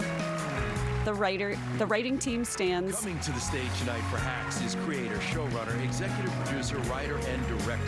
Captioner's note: applause